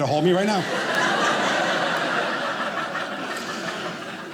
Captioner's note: audience laughing